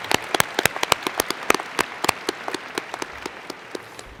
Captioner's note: applause